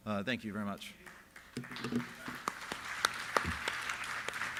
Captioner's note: applause